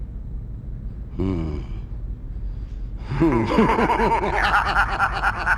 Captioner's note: chuckling; mischievous laughing